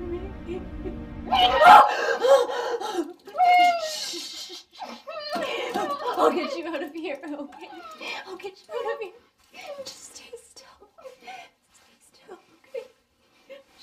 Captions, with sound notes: Can you hear me? [Startled with fear sound] [Sobbing] Sshhh [sobbing] I'll get you out of here, okay? I'll get you out of here. Just stay still. [Sobbing] Just stay still, okay?